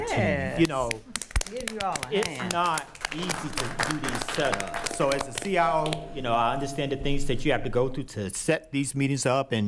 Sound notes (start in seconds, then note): 0.6 attendees applauding; 0.6 clapping; 4.0 attendees applauding